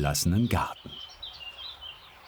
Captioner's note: birdsong